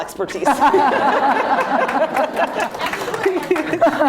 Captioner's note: laughter